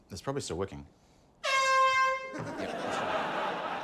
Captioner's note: honk!; laughter